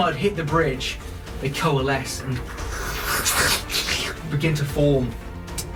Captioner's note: slurping noises